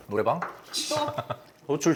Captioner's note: chuckles